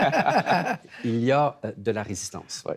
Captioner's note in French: rires